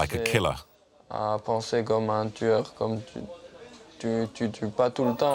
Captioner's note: French spoken audio